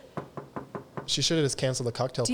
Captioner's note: knocking